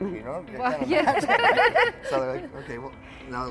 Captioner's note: all laughing